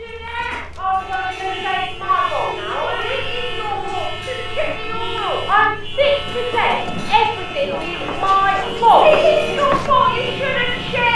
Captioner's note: loud background tv noise